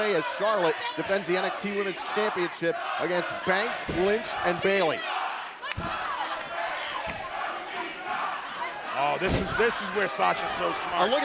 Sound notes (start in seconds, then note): 4.9 crowd cheering